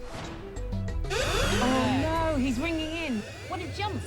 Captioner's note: electronic tone